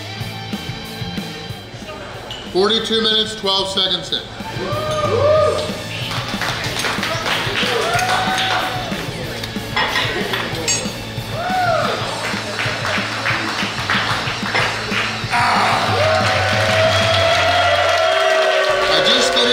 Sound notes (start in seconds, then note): 4.5 cheering & Clapping; 15.8 cheering & Clapping